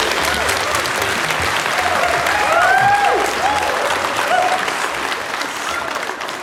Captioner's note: audience applauding